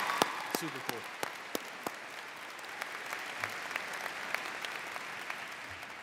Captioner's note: audience cheers